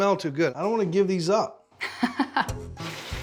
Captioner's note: laughter